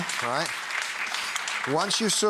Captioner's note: audience clapping